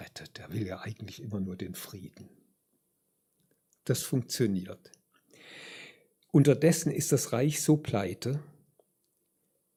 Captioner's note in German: japst